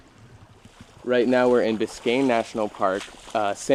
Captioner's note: water splashing